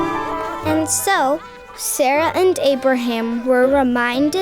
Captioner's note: voiceover